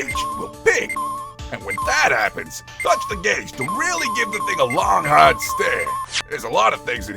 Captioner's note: rapid beeping!